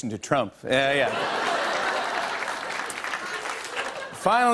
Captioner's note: applause